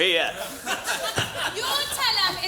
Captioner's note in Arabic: يضحك الجمهور